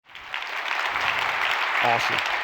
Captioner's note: applause